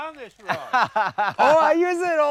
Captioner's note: laughs